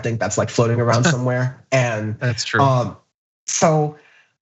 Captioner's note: laugh